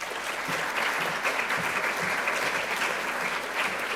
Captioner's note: applause